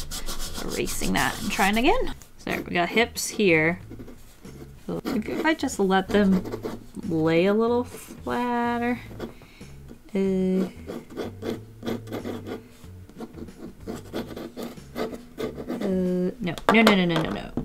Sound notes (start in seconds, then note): 9.9 pencil scratching on paper